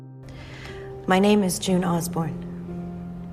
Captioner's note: voiceover